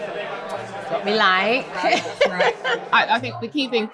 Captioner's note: laughter